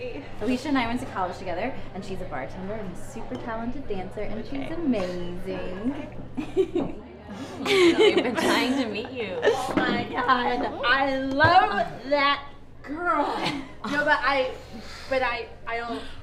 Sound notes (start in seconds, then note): 6.3 laughs